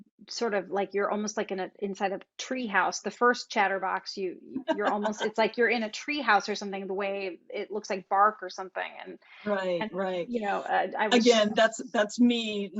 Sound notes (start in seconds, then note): 4.6 laughs